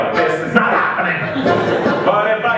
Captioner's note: laughter